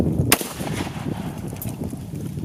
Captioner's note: gun fires